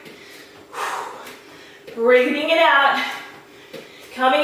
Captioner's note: exhaling